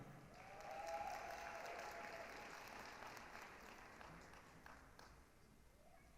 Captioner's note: applause, cheering